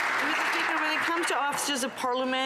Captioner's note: some Applause